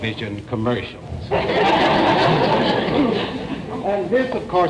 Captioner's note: audience laughter